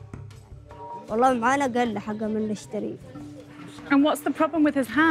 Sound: speaking in foreign language

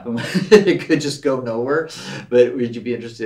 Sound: Gregg laughs

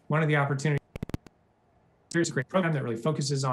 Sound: audio glitches

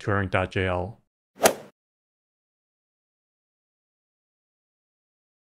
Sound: golf ball hit sound

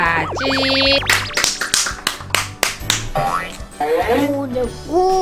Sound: clap

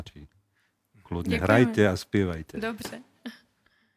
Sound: laughs

